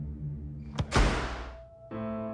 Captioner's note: suspenseful music; door banging